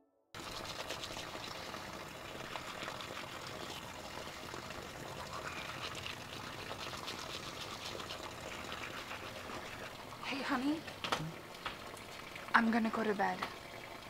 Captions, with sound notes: [rain lightly falling] [tooth brushing sounds] Hey honey I'm gonna go to bed.